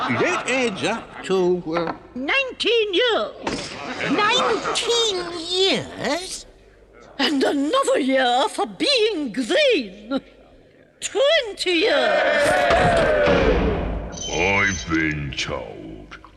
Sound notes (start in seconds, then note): 11.9 weasels cheer; 12.5 gavel bangs